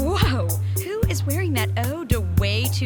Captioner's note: sniffing